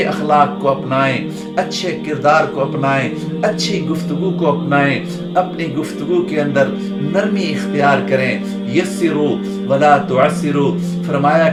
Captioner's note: Arabic